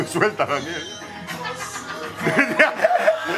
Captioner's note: laughter